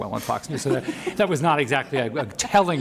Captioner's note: laughs